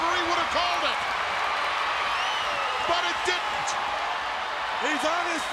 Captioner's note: applause